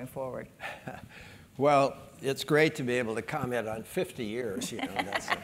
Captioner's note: laugh